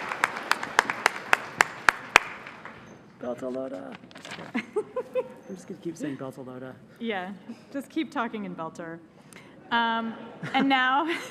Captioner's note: cheers and applause